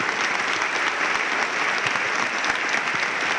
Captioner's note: applause